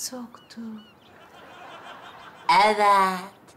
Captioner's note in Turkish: Gülme efekti